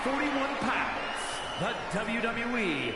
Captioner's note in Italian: Applauso